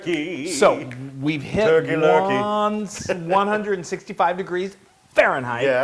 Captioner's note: laugh